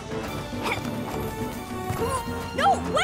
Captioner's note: grunts of effort